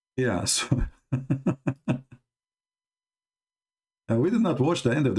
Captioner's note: Ketawa